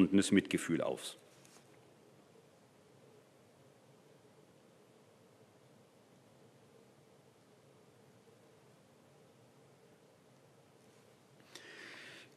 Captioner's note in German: Schweigeminute